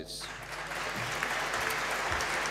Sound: applause

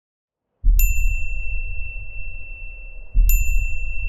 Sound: beep

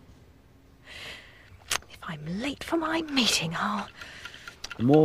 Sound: watch ticking

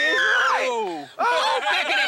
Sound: screaming

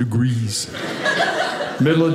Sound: audience laughing

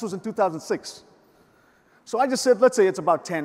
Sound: none

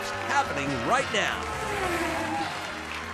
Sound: race car zooms; audience applauds

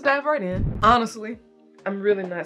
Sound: whooshing sound

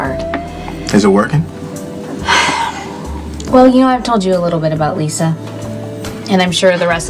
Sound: sighs

